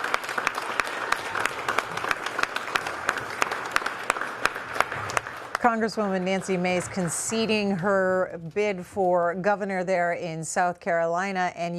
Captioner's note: applause